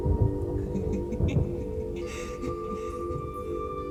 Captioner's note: laughing